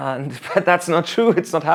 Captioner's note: laughs